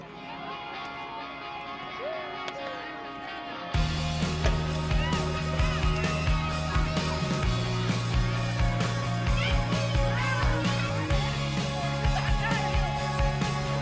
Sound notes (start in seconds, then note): 1.5 cheerful rock music; 9.4 children playing